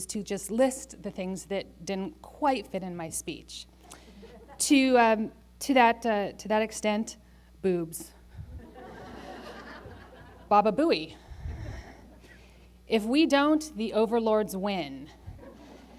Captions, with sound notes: to just list the things that didn't quite fit in my speech. To that extent, boobs. [laughter] Baba booey. If we don't, the overlords win.